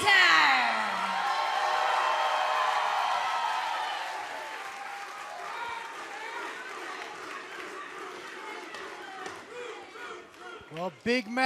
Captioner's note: cheers and applause